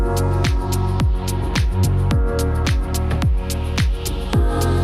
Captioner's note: none